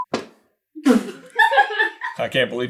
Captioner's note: team laughter